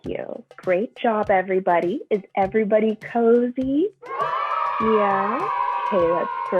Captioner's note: cheers